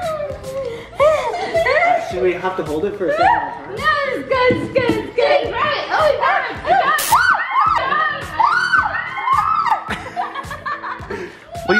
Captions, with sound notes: - Oh my goodness! - Do we have to hold it for a certain amount of time? - It's good, it's good, it's good! Oh grab it, grab it! (everyone squeals)